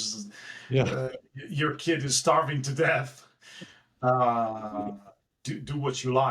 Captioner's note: laugh